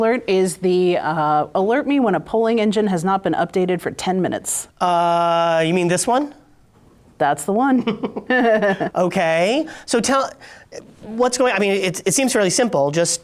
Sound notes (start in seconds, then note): 7.8 chuckles